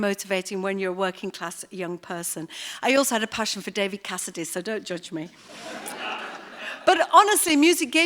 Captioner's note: laughter